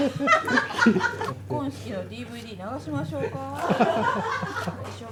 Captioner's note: laughs